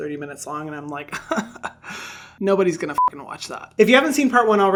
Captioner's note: beep